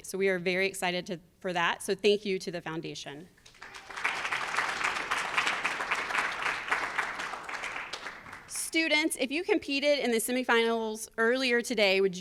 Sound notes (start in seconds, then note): 3.4 audience applauds